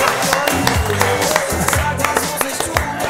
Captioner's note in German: Jubel, Lachen